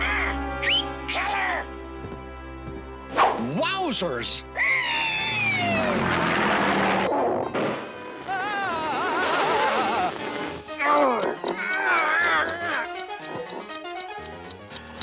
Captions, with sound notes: RAWK! [WHISTLES] KILLER! WOWSERS! [SCREECHES] [POP] AAH! [TICKING]